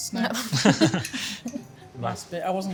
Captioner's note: all laugh